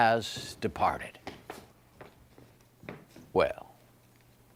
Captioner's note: footsteps approaching